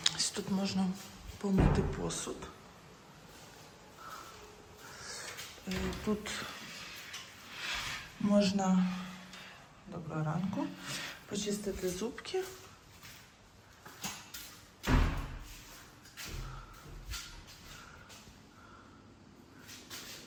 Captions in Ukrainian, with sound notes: Ось тут можна помити посуд. Е, тут [сопіння] можна доброго ранку. почистити зубки.